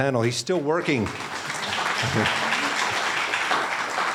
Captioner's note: applauding